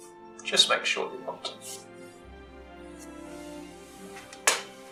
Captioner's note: none